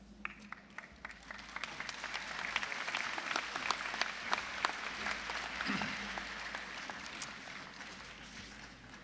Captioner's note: applause